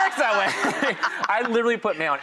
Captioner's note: laughing